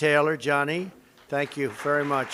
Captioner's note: applause